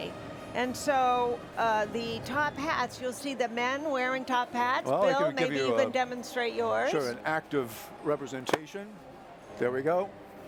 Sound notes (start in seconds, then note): none